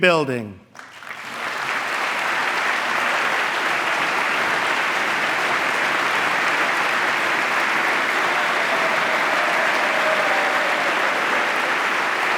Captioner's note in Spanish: aplauso